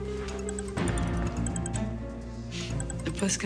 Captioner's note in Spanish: suena el celular